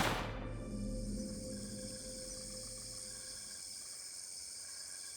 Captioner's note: crickets chirping